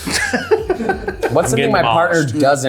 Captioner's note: people laughing